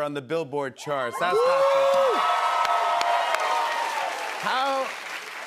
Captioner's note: cheers and applause